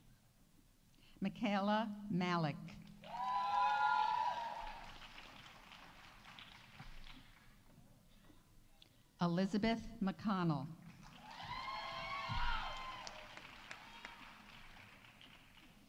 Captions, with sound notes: Michaela Malec. -(audience applauding) -(audience cheering) Elizabeth McConnell. -(audience applauding) -(audience cheering)